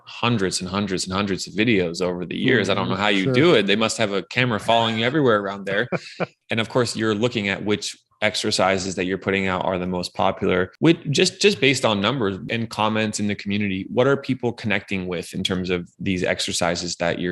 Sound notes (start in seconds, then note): 6.3 laughing